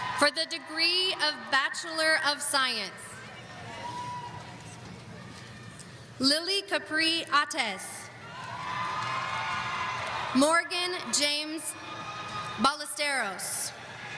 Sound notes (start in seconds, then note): 8.2 audience cheering